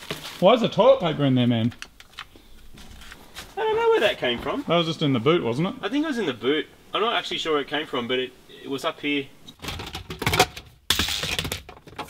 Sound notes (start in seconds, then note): 9.6 clattering; 9.6 plastic clattering